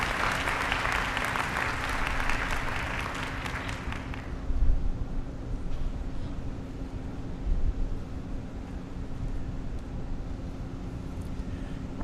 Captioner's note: applause